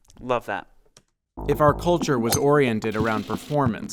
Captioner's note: golf ball pinging; money counter clacking